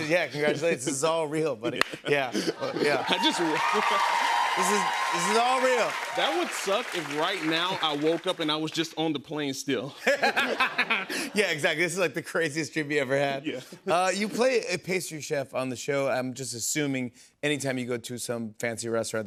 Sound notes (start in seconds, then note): 2.6 audience cheers; 10.0 laughter